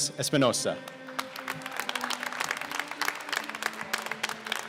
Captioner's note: applause